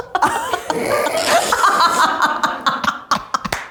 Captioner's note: everyone laughs